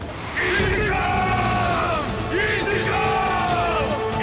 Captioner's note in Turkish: Hep bir ağızdan